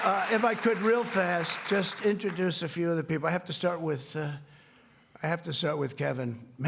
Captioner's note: applause